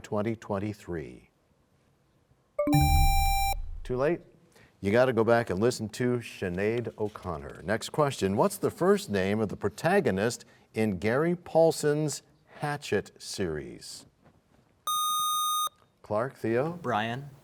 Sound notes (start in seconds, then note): 2.6 bell chimes, time expires; 2.7 buzzer sound